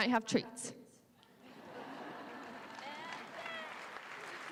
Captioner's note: laughter, applause